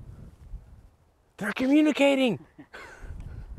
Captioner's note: laughs